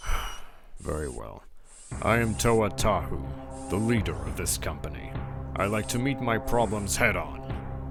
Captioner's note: sigh